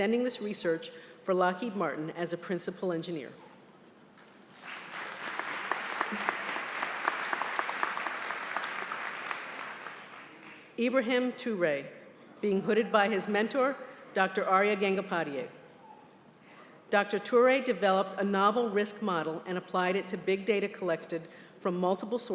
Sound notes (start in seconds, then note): 4.5 applause